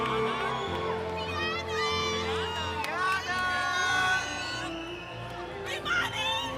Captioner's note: cheering continues; inspirational music